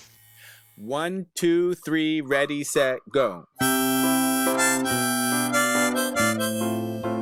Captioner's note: metronome clicking